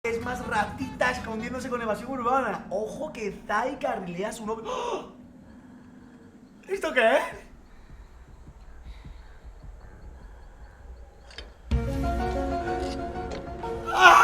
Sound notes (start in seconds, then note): 4.6 gasps in Spanish